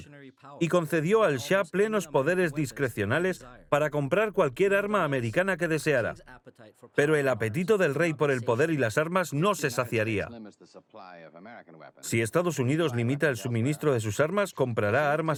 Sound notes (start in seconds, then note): 7.5 speaking in a foreign language